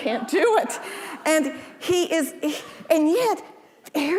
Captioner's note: audience laughing